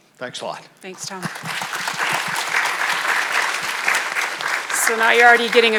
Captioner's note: audience applauds